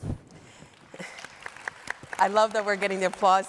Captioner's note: all applauding